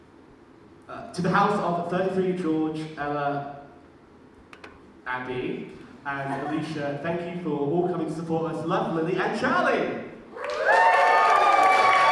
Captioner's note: audience cheers